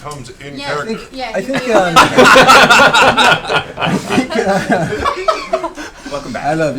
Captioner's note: all laugh